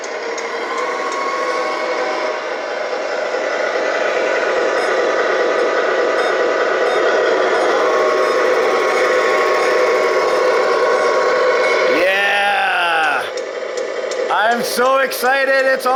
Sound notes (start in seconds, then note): 0.3 truck engine roars; 5.0 truck beeps